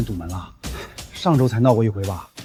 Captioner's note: sigh